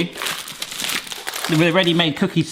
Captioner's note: foil crinkles